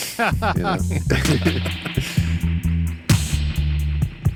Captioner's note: laughing; upbeat music